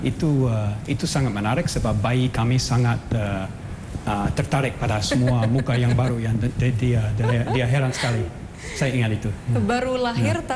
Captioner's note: non-english speech; non-english speech